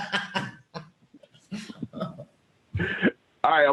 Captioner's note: laughter